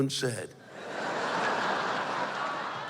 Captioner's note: laughter